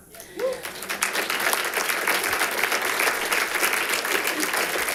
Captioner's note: audience applauding